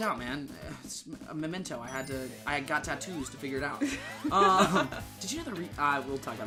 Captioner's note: both laughing